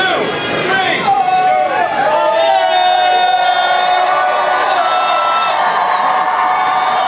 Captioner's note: everyone cheers